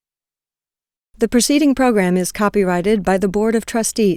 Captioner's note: voiceover